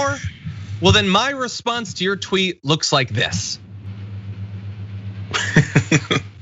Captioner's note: laugh